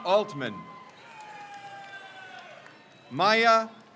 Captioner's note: crowd cheers